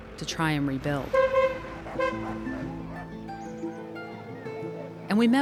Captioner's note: horn honking